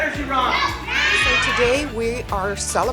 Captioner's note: kids cheering